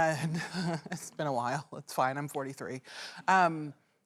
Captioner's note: laughs